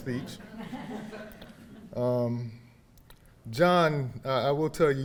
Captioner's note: audience laughing